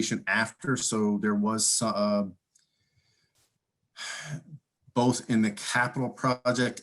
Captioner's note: sighing